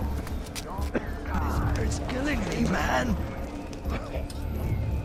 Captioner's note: coughing citizen complains that the toxic air is 'killing him'